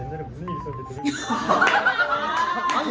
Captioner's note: embarrassed laughter